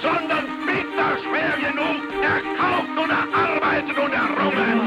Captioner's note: Hitler speaking in German